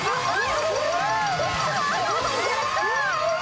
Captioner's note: laughing